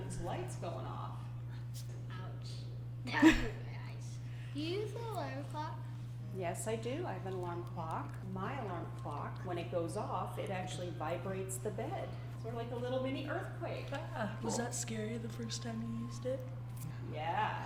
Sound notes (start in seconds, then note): 3.1 laughs